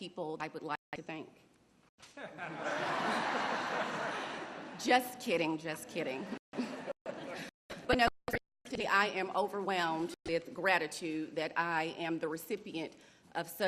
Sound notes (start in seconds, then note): 4.0 laughter